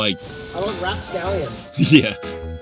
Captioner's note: pat